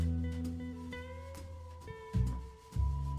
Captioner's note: kiss